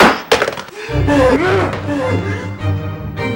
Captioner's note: cylinder clatters; panting; dramatic music